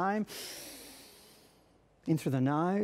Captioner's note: inhale deeply